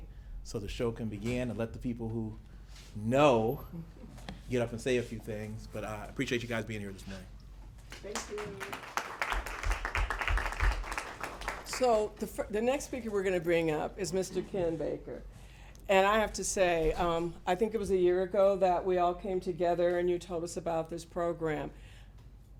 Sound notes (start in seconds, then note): 7.8 applause